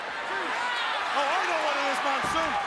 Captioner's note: crowd cheers